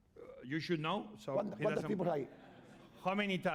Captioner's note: speaking spanish